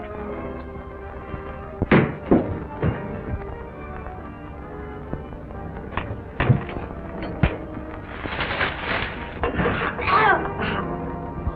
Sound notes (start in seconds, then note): 1.8 thudding; 5.9 thumps; 9.7 Fagah groans